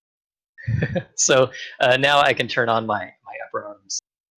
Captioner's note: chuckles